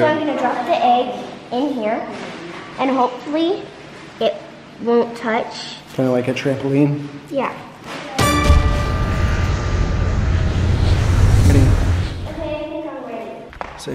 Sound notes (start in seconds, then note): 8.1 dramatic tone; 8.8 rocket roaring